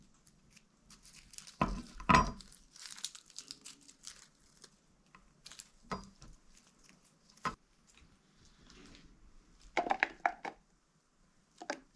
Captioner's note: crunching